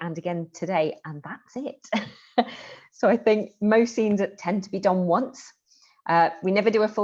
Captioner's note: laughter